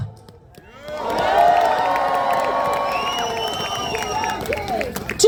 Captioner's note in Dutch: Gejuich